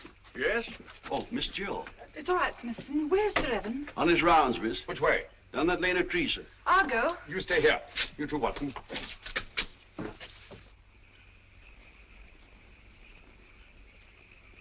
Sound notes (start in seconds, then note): none